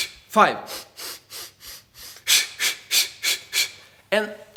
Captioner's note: air hisses